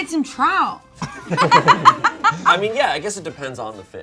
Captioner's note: everyone laughing